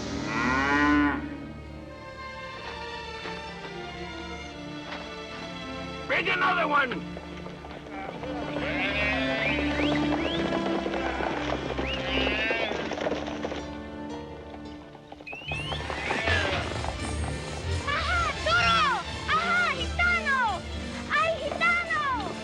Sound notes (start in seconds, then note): 0.1 calf bellows; 8.4 calves bellowing, Cowboys whistling